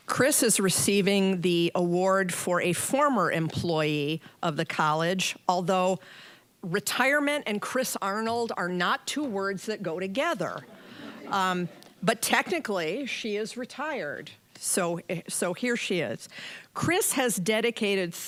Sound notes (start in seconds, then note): 10.7 audience chuckling